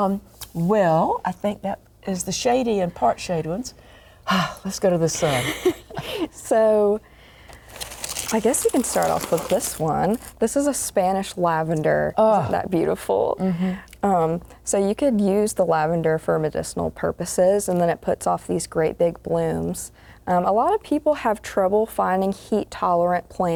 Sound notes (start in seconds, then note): 5.2 laughter